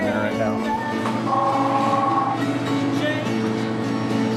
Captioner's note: phone ringing